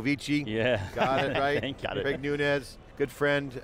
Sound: laughter

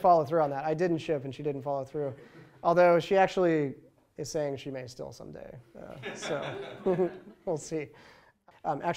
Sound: laughter

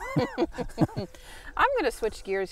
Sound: laughing

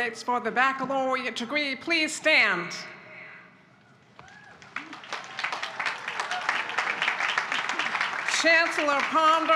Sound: applause

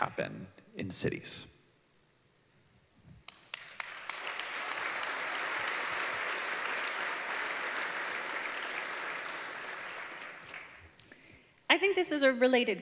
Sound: applause

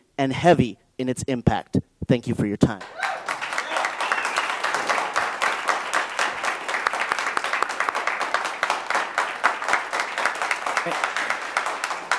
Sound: applause

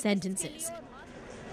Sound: speaking Alternate Language

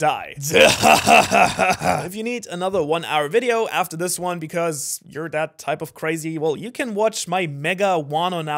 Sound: Blackbeard Laugh

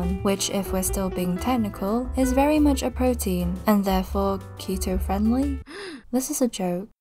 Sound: gasp

